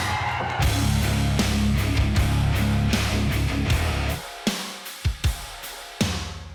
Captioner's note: cheers